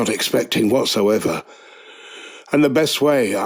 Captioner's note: inhale